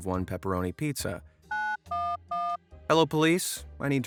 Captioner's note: phone dialer beeping